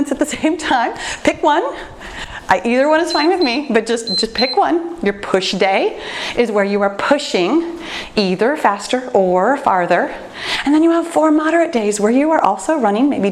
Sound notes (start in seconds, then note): 3.0 timer beeps